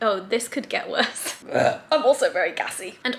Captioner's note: belching